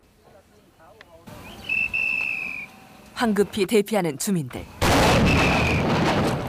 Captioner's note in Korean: 경고 호각 소리